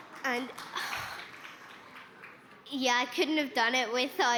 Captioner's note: laughter